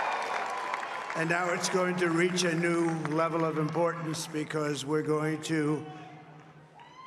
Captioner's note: cheers and Applause